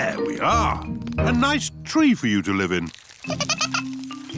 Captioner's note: giggling